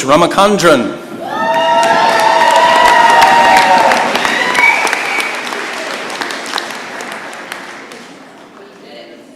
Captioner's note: cheering and applause